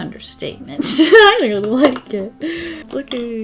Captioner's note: laughs